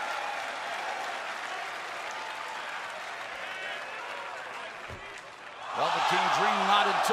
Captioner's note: crowd cheering